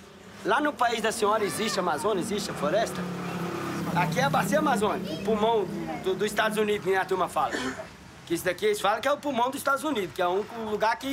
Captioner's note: horn honking